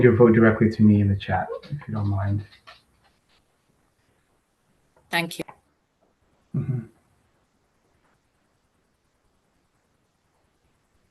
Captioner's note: pause